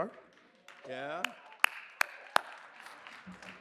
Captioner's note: applause